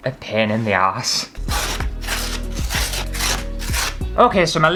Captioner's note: ripping Paper